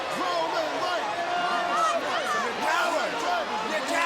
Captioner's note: audience chanting